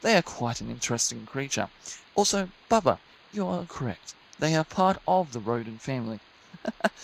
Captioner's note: chuckle